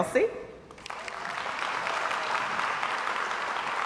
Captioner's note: crowd applauds